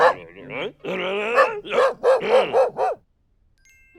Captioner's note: barking; woof woof woof woof woof